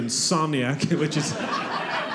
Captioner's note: audience laughing